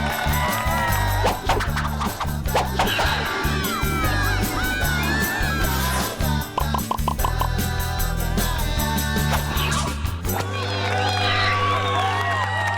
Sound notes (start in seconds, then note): 0.0 cheering; 0.2 upbeat music; 2.9 cheering